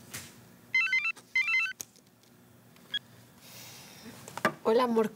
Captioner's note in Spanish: suena el teléfono